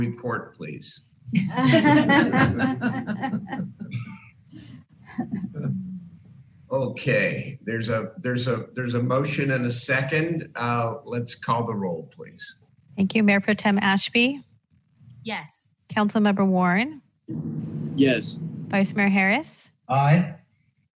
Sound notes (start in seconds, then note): 1.3 laughter